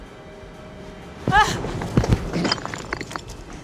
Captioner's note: grunts